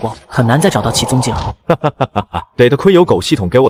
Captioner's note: laughter